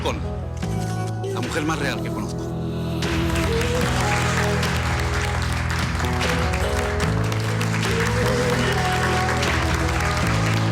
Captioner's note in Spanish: Continúan los aplausos